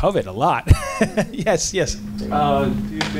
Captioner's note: laughing